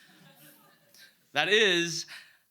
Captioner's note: audience laughs